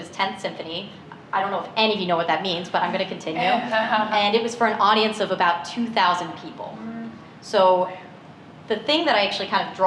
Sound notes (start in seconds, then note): 2.5 laughter